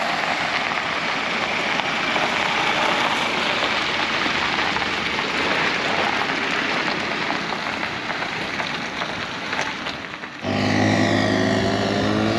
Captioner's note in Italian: Applauso